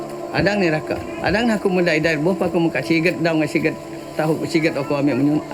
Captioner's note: speaking in foreign language